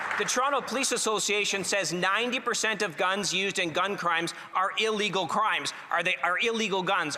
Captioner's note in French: voix de l'interprète